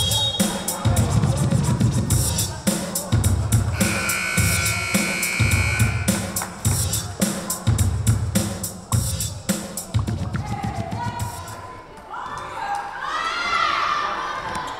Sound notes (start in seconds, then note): 0.2 whistle blowing; 3.7 buzzer buzzing